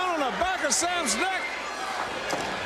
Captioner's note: crowd chatter